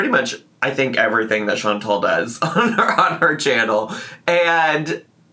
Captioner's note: laughs